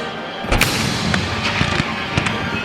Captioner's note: cannon booms